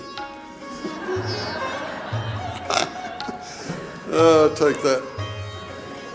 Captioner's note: audience laughing